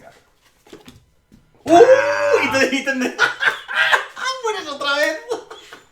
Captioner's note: laughs